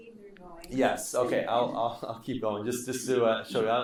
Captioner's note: laughing